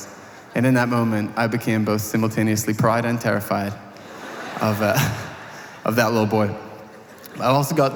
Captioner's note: audience laughter